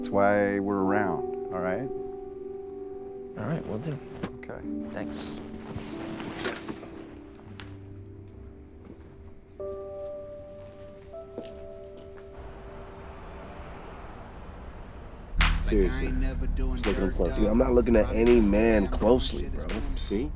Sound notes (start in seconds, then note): 7.2 hopeful piano; 12.2 traffic humming